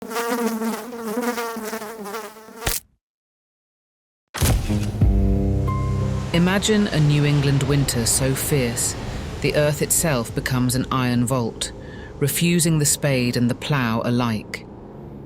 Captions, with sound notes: (fly buzzing) (fly splatting) (spooky piano music) Imagine a New England winter so fierce the earth itself becomes an iron vault, refusing the spade and the plow alike.